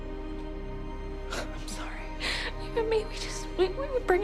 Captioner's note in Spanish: sollozos